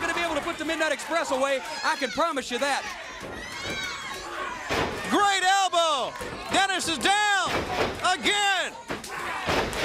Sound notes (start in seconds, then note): 4.7 crowd cheering; 9.2 crowd cheering